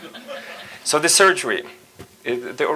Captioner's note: audience laughs